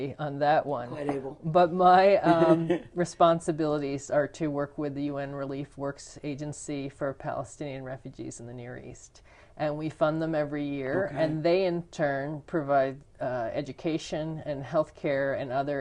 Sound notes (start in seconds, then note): 2.2 laughter